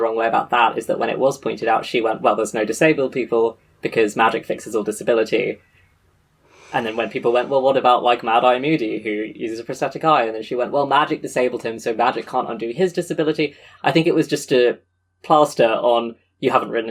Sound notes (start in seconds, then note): 5.5 sighs